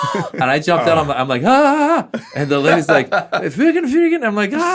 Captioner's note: yelling; speaking in foreign language